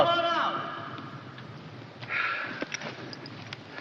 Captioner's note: sighs